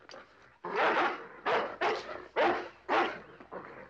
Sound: dog barking

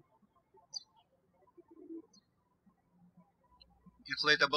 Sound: birds chirping

